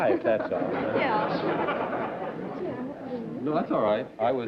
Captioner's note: laughter